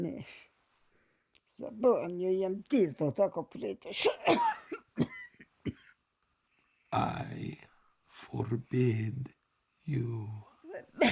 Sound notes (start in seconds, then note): 0.1 Zora speaking Serbian; 4.2 Zora coughs